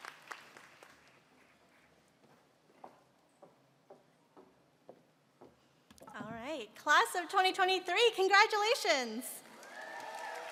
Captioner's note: applause